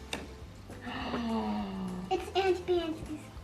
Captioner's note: gasping